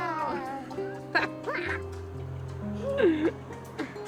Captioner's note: cheers, giggles